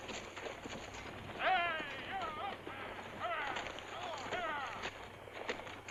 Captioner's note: stagecoach driver shouts